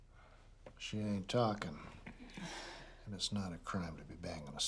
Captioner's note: sighs